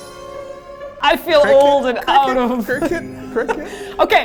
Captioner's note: cricket